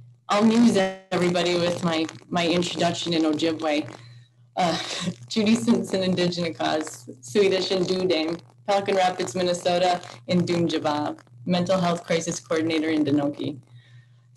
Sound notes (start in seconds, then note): 6.0 speaks foreign language; 9.8 speaks in foreign language